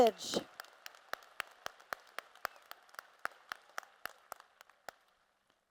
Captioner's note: applause